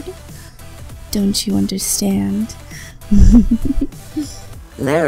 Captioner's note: wicked laughter